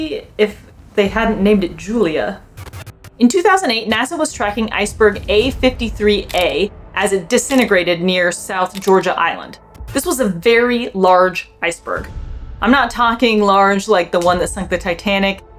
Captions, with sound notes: if they hadn't named it 'Julia'. (glitch sound effect) In 2008, NASA was tracking Iceberg A53a as it disintegrated near South Georgia Island. This was a very large iceberg. I'm not talking 'large' like the one that sunk the Titanic.